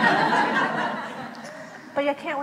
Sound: laughs

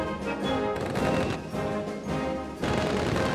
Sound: guns firing

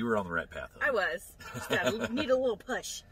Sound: laughs

